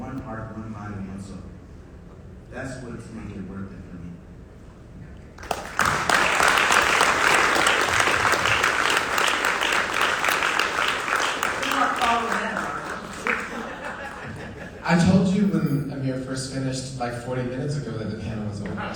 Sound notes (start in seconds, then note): 6.6 audience applauds